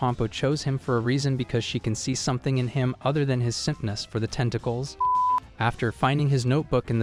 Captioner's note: beep